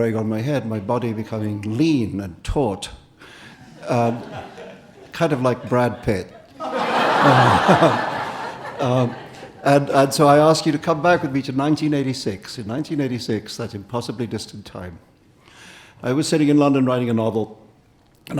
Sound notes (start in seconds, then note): 3.6 audience and Salman laughing; 3.6 audience laughing